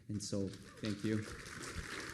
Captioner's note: applause